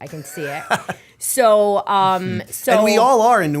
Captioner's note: laughter